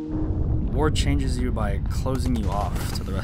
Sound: voiceover

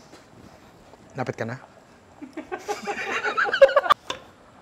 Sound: laughter

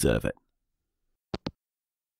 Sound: hangup

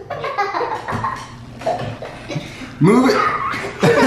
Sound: laughing

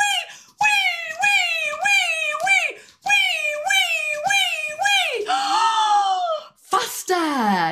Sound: gasp

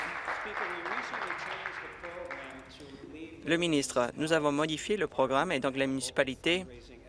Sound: applause

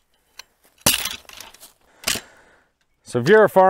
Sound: metal clattering

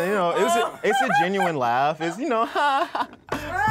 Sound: laughs

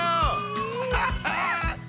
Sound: laughing

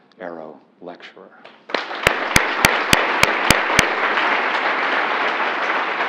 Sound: applause

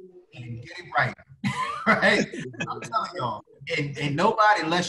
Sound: laughing

